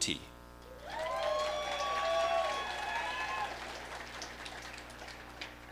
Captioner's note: audience applauding